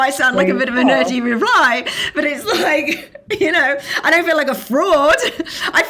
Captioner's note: laughing